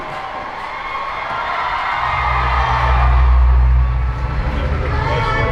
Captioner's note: audience cheering